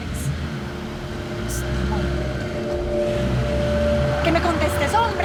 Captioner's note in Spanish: Ruido del vehículo